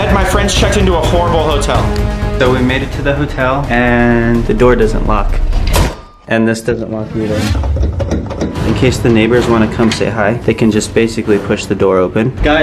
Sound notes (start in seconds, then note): 5.6 lock clinks; 7.6 lock rattles